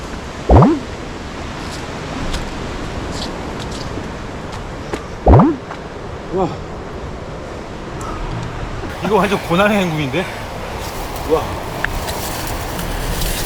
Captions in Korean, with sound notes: 멈칫x2 멈칫x3 이거 완전 ‘고난의 행군’인데... [감탄]